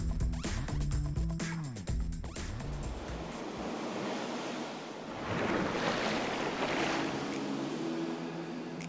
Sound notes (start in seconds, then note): 2.6 ocean waves lapping; 6.5 gentle music